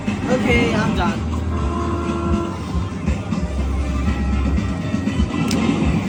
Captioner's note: train whistle blowing